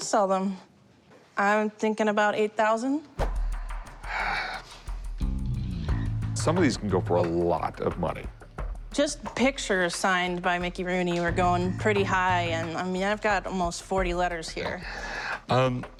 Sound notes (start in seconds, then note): 3.4 sighs